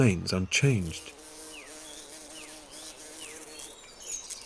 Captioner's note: beetles buzzing